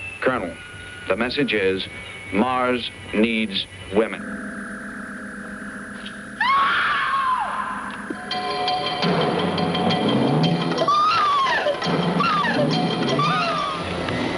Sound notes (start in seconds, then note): 6.4 woman screaming; 7.6 dramatic theme music; 10.8 woman screaming